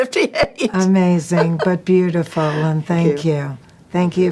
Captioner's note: Jane chuckling